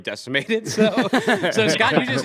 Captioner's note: laughter